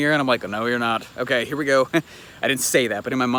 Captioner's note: chuckles